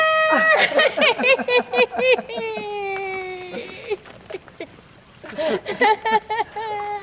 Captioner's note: laughs; mom laughs